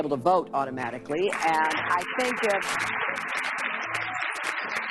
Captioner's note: applause